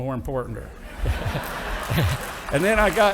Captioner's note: audience laughing